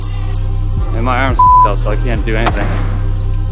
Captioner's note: beep